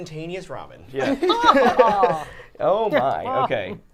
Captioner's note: all laughing